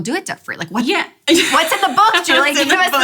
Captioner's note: laughs